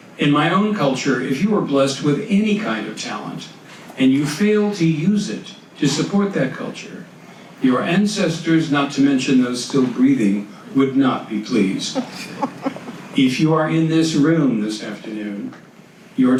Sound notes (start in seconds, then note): 11.8 audience laughs